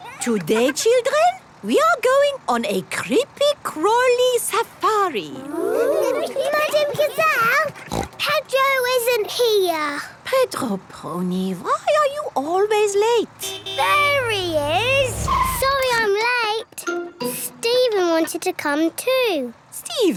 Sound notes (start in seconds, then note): 7.4 snort; 13.4 honking